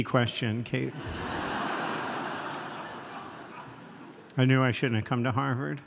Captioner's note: audience laughs